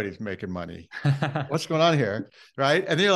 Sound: laughes

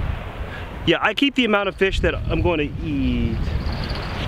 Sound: jingling

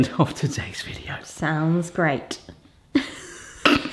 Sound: laughs

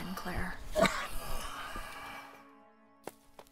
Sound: coughing

